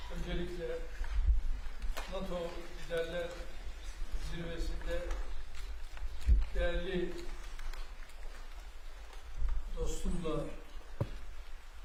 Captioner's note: speaking Turkish